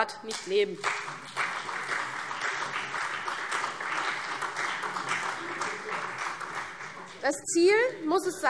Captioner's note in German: Beifall CDU und vereinzelt BÜNDNIS 90/DIE GRÜNEN, SPD